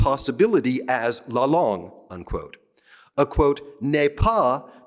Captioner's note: speaking french